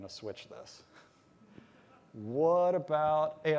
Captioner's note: laughter